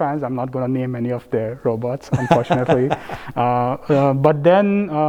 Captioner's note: laugh